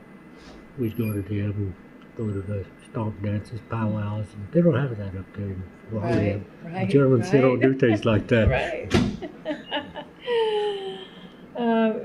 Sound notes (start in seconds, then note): 9.1 laughs; 11.7 laughter